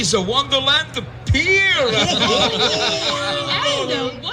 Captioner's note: laughter